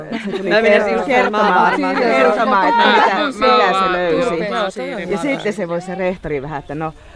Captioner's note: excited overlapping speech